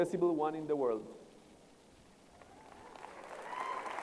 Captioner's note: applause